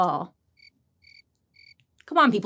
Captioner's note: crickets chirping